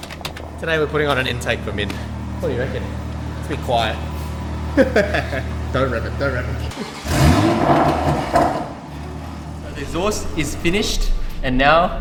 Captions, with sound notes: Today we're putting on an intake for Minh. What do you reckon? It's abit quiet. Huuhe huee heeeuueh (laughing) Don't rev it, don't rev it. (engine revving) The exhaust is finished and now,